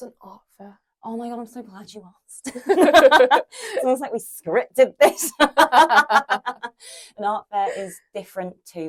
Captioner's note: laughs